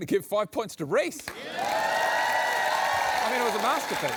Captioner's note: applause